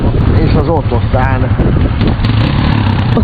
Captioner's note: car